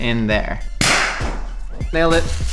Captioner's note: bottle cork pops